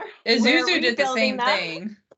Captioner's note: both laughing